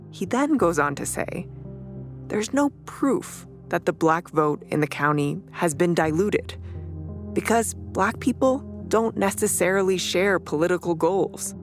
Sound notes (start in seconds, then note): none